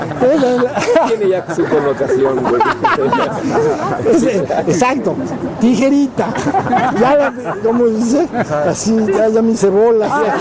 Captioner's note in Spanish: Risas